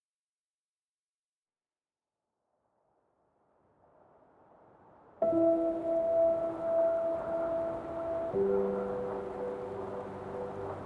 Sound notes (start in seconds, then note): 3.0 wind howling; 5.2 gentle music